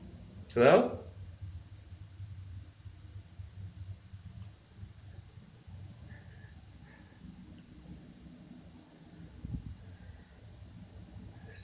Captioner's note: silence